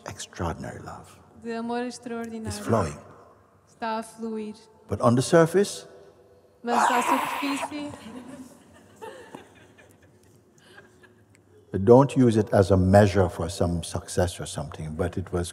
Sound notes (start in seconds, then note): 6.7 mimics wailing; 7.9 laughter